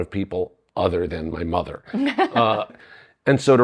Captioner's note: laughing